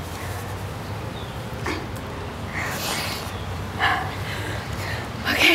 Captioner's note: laughing